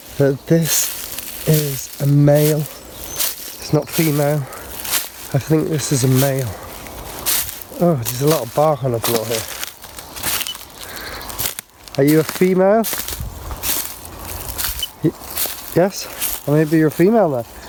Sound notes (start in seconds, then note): 2.1 leaves rustling; 6.9 leaves rustling; 10.2 leaves rustling; 10.4 beep; 14.7 beep